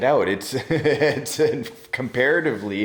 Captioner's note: laughing